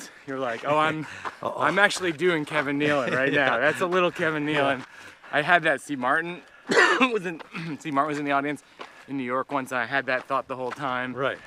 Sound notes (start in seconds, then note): 2.6 laughs; 6.6 coughs